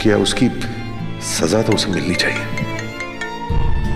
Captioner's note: Phone ringing